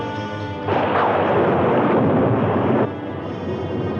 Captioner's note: thunder crashing